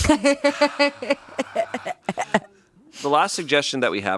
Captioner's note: laughs